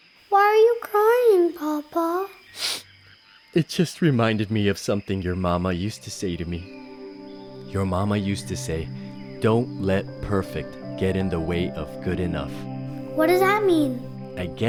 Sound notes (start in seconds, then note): 2.5 sniffles